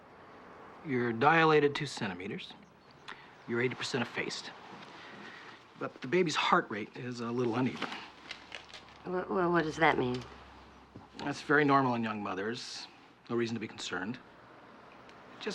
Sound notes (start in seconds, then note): 8.8 stutters